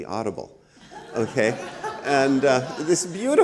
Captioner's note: audience laughs